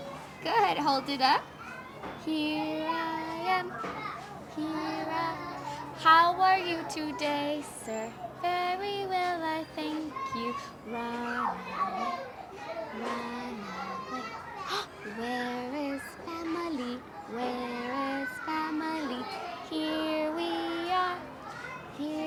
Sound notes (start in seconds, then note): 5.2 humming